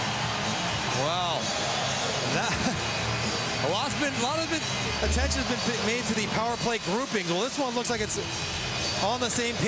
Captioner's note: cheering and Applause